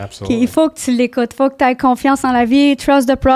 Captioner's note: in french